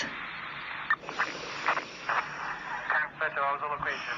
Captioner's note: inhale; exhale